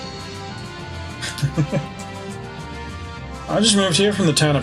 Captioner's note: chuckles